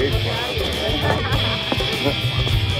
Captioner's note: Laughs